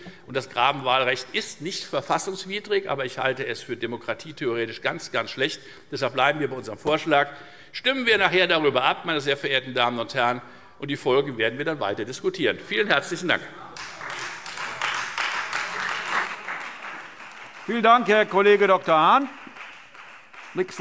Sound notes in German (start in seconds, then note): 13.7 Beifall Freie Demokraten